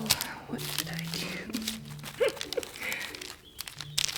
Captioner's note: laughs